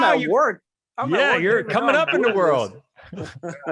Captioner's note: laughs